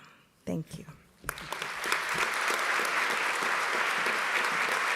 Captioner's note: audience clapping